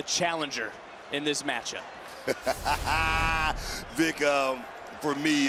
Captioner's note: laughs